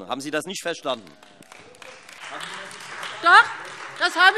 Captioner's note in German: Beifall Freie Demokraten und vereinzelt AfD